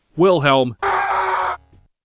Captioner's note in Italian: urlo di Wilhelm